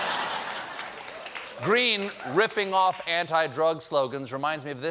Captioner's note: laughter